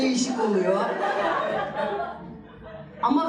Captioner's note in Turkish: Gülüşmeler